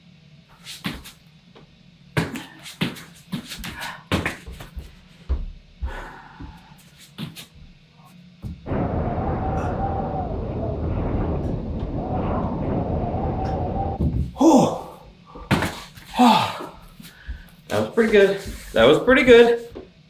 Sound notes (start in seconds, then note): 5.7 breathing heavily; 8.5 wind howling